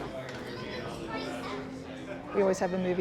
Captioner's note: bar patrons chatting